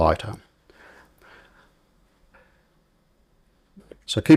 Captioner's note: silence